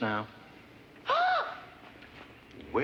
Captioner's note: gasps